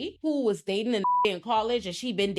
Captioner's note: beep